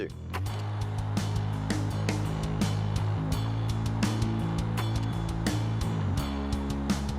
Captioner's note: slow rock music; film reel clicks